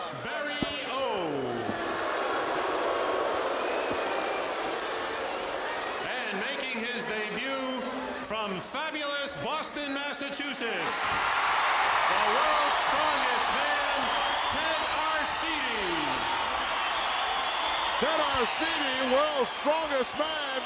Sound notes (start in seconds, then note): 1.0 audience jeering; 11.1 audience cheering